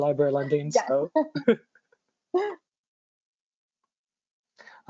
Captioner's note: laughs loudly